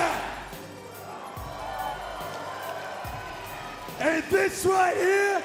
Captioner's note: crowd cheering